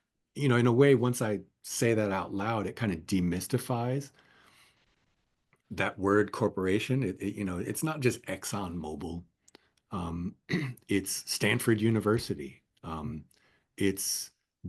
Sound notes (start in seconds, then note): 10.4 cough